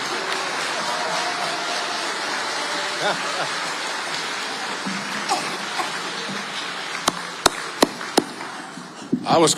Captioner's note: audience applauding